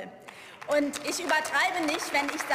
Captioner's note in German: Beifall